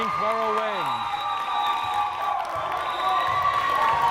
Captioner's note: whistle blares